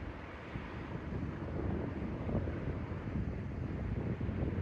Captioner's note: wind blows